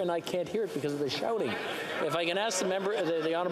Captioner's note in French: voix de l'interprète